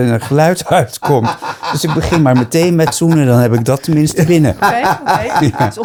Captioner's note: laughter